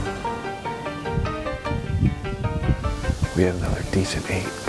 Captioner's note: wind whooshing